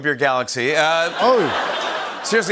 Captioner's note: laughter